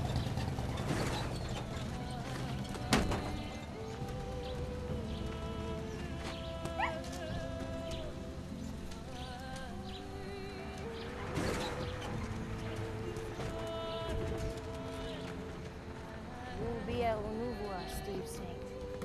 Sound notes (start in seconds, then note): 2.6 rock thumps; 6.7 dog whimpers